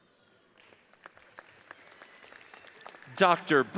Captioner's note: audience applauds